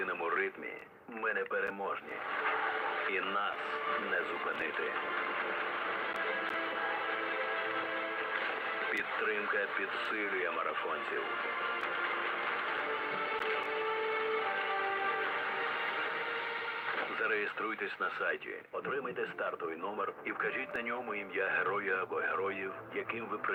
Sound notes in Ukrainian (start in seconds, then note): 6.1 оплески; 14.3 оплески